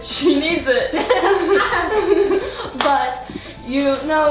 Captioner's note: laughing